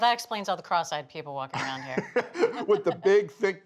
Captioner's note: laughing